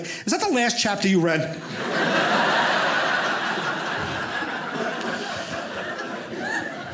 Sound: audience laughing

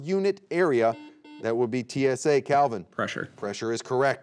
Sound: buzzer beeping

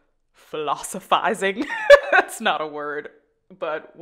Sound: laughing

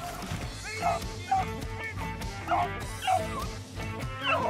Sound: dogs barking

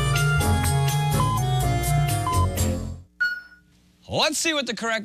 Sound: electronic beeping

